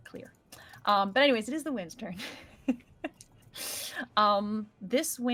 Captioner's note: chuckles